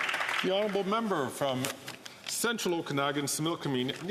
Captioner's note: some Applause